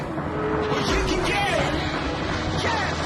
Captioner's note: car engine roars